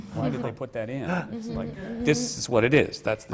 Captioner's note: laughter from the panel